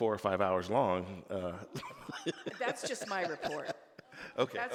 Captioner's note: laughing